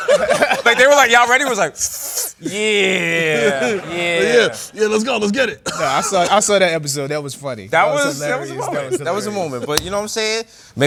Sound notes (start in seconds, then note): 0.0 laughter; 2.3 inhales; 4.1 coughs